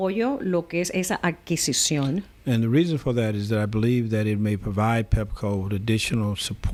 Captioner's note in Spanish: Hablando ingl\s